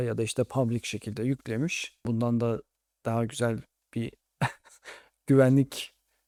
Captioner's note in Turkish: kahkaha